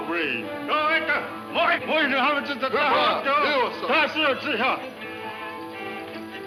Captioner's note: men speaking in foreign language